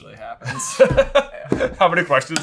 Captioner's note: laughing